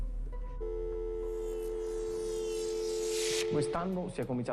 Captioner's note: dial tone